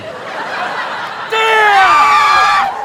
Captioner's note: screaming in unison